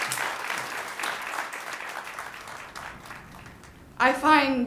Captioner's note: ^applause^